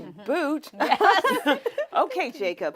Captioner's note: women laughing